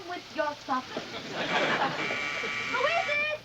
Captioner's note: doorbell buzzes